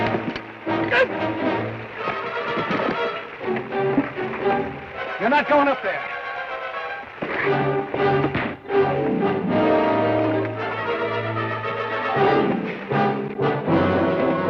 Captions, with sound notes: (Ben grunts) - You're not goin' up there! (thud) (dramatic orchestral music)